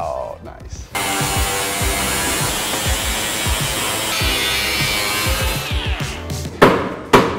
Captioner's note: upbeat music; machine buzzes